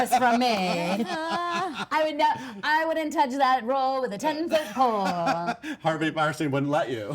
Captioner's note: laughs